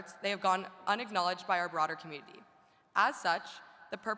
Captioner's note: none